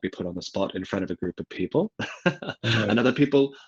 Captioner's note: laughs